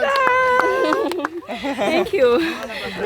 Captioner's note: giggles